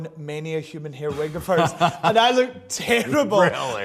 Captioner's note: laughs